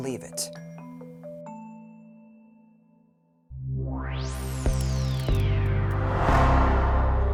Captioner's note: gentle music; graphics whooshing